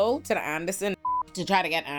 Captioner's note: beep